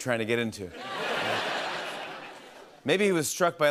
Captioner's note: laughter